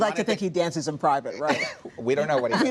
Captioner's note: laughter